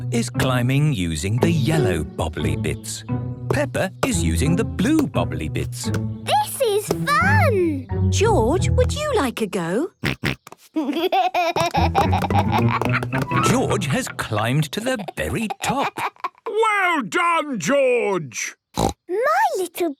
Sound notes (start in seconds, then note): 10.1 snorts, giggles